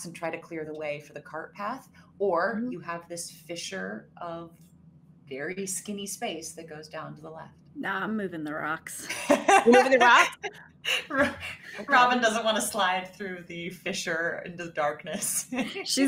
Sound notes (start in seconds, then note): 9.0 laughs